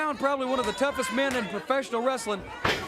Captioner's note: crowd cheering